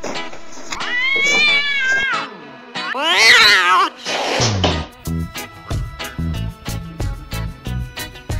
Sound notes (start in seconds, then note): 0.8 siamese Cat Yowling; 2.8 tabby Cat Yowling and Hissing